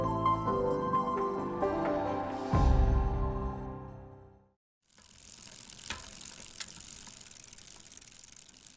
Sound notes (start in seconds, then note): 4.8 bike wheel clicking